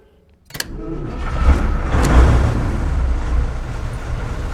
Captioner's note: whirring; engine rumbling